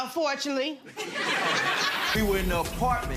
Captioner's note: audience laughing